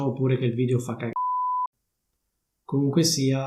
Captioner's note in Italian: beep